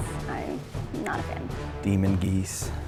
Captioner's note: voiceover